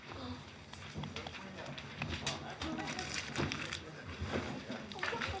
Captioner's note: attendees chatter